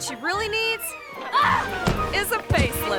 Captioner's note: woman screams; body thuds; woman thumps